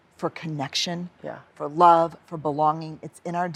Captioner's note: none